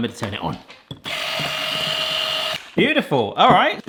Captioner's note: whisk whirring